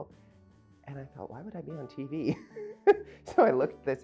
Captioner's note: laughing